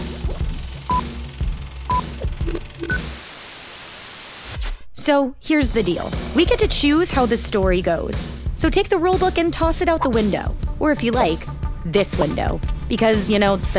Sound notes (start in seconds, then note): 0.8 beeps; 2.4 static